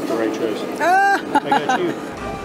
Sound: laughs

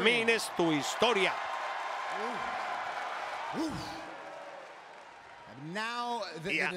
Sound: applause

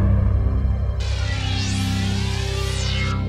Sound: laser fires

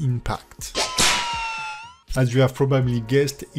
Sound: whip whooshing

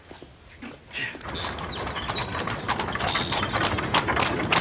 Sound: hooves clatter

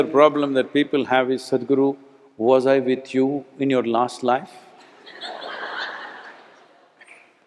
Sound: laughter

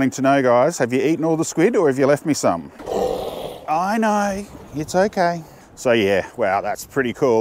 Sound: seal growls

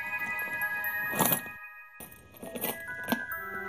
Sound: keys jingling

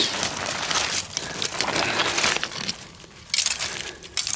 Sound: soil scraping; rifle clips rattling

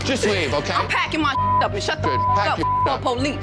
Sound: beep

